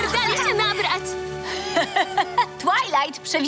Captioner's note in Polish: śmieje się